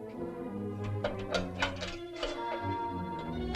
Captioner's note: lock rattling